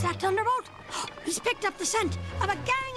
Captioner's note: gasps